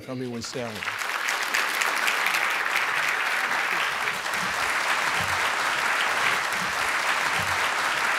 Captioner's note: applause